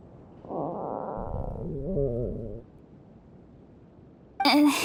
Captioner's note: rumbling